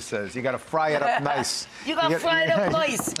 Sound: laughing

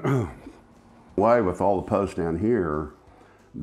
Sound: clearing voice

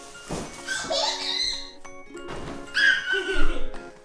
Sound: laughs; pillows hitting floor; upbeat music; baby squeals; laughs

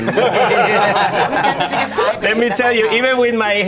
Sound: all laughing

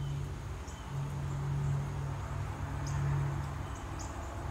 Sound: vehicle approaching

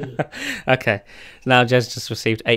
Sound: laughs

